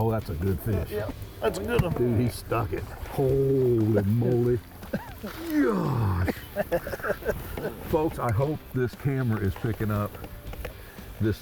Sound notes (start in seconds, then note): 4.8 laughing; 5.4 grunting